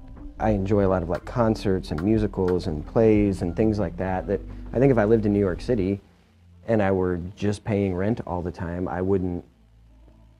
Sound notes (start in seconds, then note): none